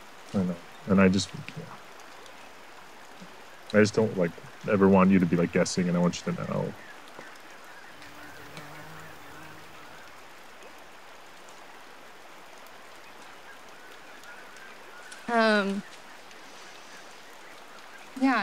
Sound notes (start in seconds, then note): 7.7 insect buzzing